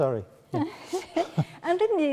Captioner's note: laughing